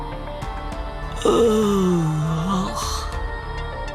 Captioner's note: yawn